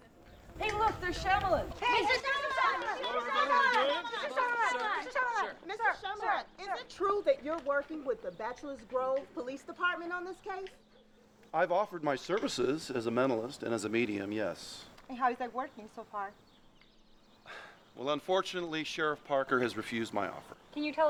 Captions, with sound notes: Hey look, there's Shamalan! (yelling) Is it true you're working with the Bachelors Grove Police Department on this case? I've offered my services as a medium and as a mentalist; yes. And how is that working so far? Unfortunately, Sheriff Parker has refused my offer.